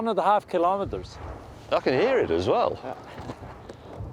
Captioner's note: distant sound of rocks crashing